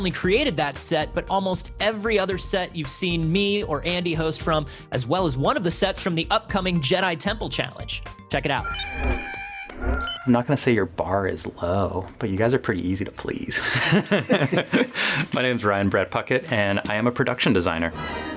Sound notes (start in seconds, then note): 8.6 shrieking; 14.0 laughs